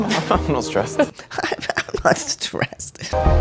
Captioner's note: unconvincing laugh